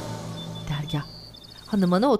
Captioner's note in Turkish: Kuş cıvıltısı sesi